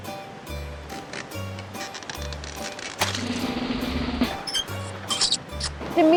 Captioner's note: sounds: creaking, rolling and drum roll